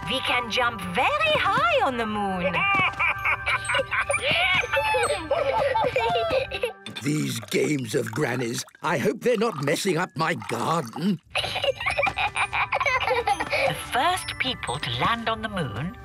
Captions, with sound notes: We can jump very high on the moon! - (excited laughter) - These games of Granny's. I hope they're not messing up my garden! - Hee, hee, hee! - The first people to land on the moon,